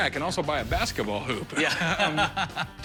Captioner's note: laughs